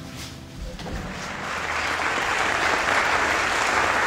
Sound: applause

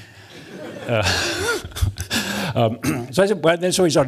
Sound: laughter

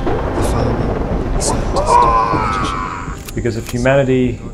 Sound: the tide pool screams

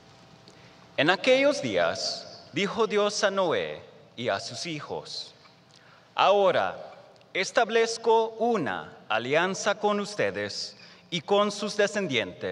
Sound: speaking in spanish

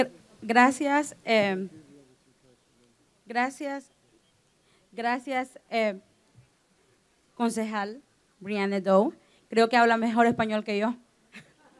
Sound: speaking spanish

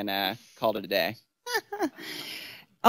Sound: laughs

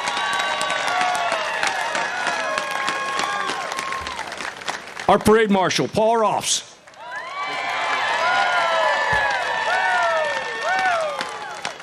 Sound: applause

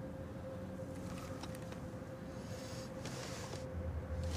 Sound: breathes heavily

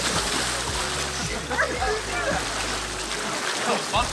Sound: water sploshes

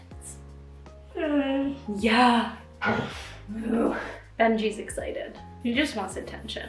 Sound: Benji whimpering

